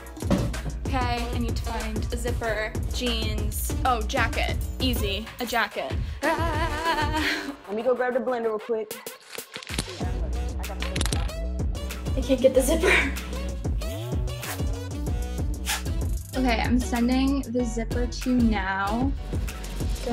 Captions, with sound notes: Okay, I need to find a zipper. Jeans, oh jacket, easy, a jacket. Ahh. - Let me go grab the blender real quick. (upbeat music) - I can't get the zipper. (zipper zipping) - Okay, I'm sending the zipper to you now.